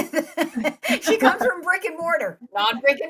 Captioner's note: laughing